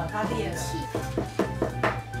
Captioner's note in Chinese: 敲 敲 敲 敲 !